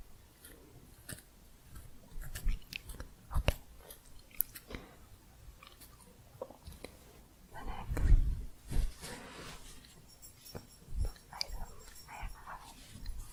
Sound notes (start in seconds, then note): 4.3 faint scissors sounds